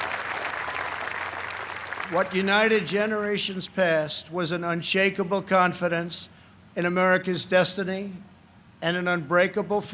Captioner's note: applause